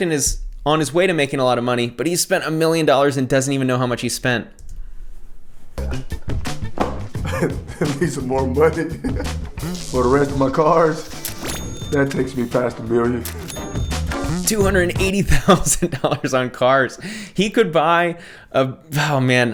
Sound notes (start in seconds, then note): 7.1 laughs